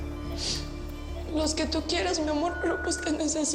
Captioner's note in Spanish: Sonido de monitor